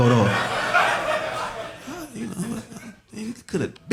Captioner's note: audience laughing